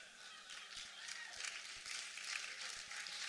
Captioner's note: applause